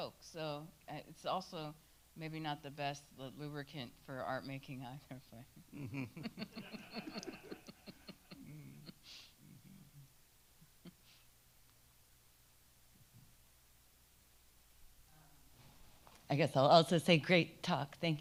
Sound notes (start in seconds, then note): 5.0 speaks faintly; 5.8 attendees laughing